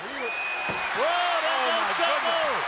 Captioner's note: crowd cheers